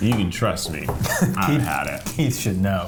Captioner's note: laughing